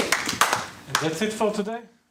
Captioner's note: applause